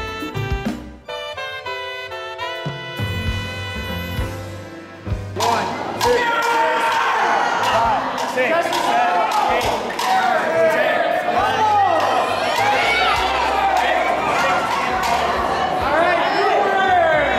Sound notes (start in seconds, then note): 8.3 lots of Cheering and Noise